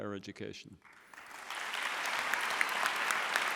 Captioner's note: applause